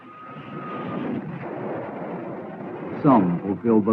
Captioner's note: booming